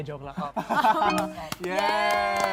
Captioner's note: chuckles